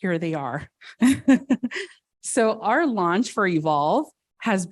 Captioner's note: laughs